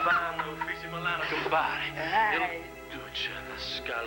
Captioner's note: italian accent